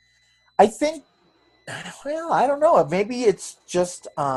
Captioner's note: sighs